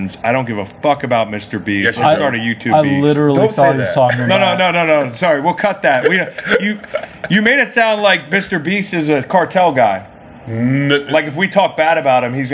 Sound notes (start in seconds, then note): 5.8 laughs